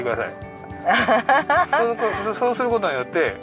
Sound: laughs

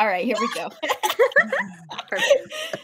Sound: all laughing

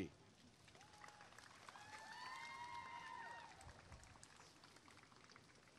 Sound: applause and cheering

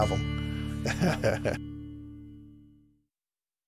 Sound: laughs

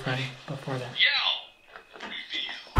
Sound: yell

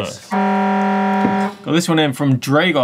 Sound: buzzer

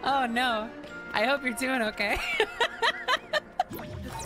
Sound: laughter

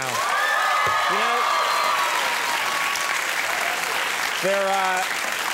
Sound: audience cheering and clapping

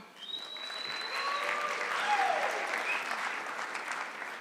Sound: audience clapping

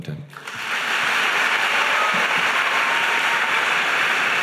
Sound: audience applauding

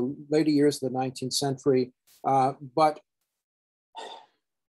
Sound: sighs

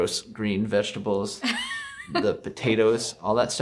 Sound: laughing

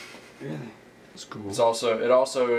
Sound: laughs

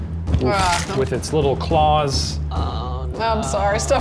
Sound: high-pitched slicing

